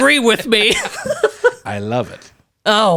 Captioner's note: both laughs